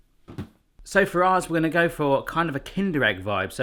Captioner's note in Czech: none